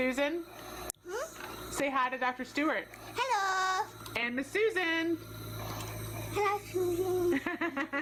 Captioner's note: laughter